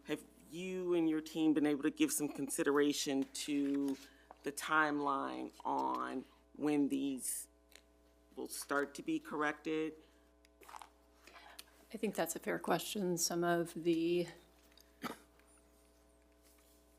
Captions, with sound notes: have you and your team been able to give some consideration to the timeline on when these will start to be corrected? - I think that's a fair question. Some of the...